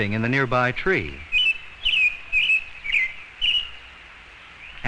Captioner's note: bird chirping